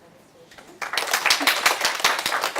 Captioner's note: applause